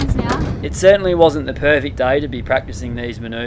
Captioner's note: voiceover